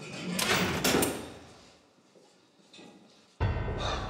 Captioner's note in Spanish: sonido al abrir la reja